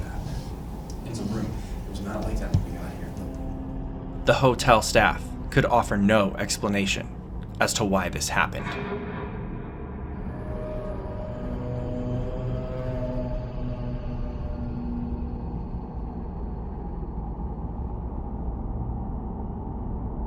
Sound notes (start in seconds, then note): 3.8 faintly speaking; 7.0 suspenseful music